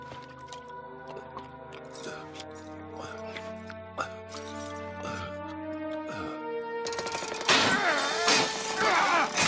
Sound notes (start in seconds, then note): 1.7 gasping and groaning